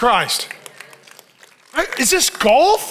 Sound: congregation applauding

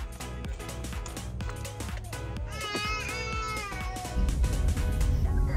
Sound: crying

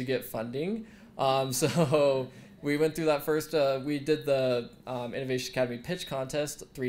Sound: laugh

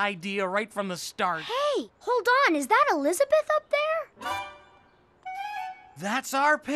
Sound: humming cheerfully

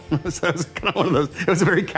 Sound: chuckling

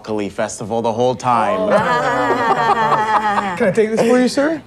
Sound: laugh uncomfortably

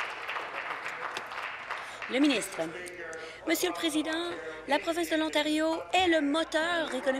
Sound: applause

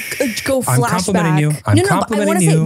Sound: shushes

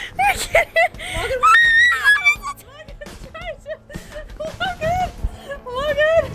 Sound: laughs loudly; screams

